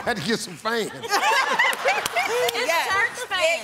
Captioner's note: laughter